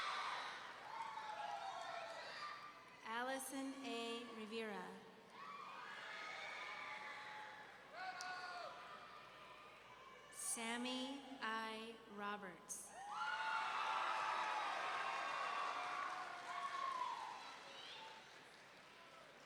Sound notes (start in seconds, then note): 5.4 audience cheering; 13.0 audience cheering